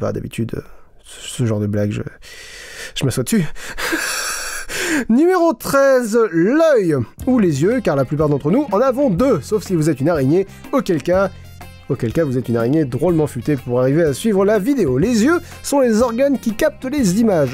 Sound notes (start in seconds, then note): 3.7 laughs